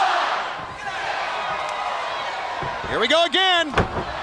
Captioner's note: crowd cheering; Ric thudding on ring